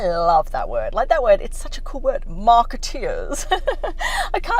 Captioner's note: laughs